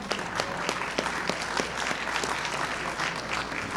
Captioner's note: applause